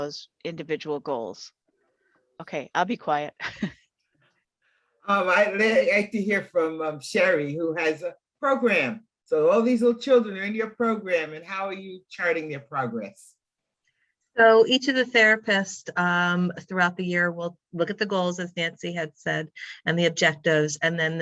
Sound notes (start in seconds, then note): 3.3 laughing